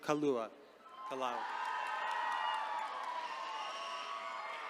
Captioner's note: attendees cheering